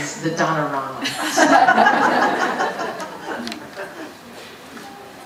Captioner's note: audience laughing